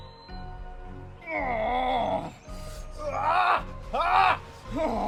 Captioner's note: Adam groaning